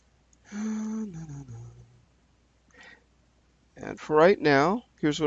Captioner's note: humming